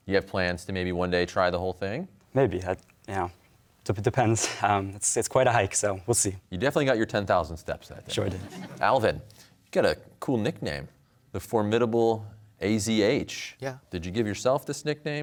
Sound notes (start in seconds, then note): 4.2 chuckles; 8.0 laughter